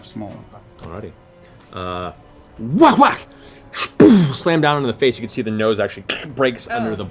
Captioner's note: fighting sounds